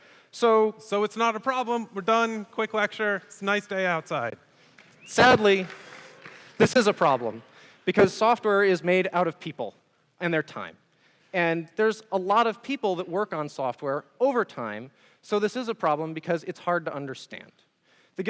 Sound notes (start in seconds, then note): 4.9 audience members whistle